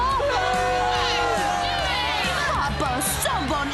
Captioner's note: crowd shouting